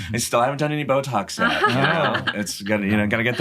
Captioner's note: laughs